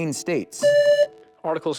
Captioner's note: buzzer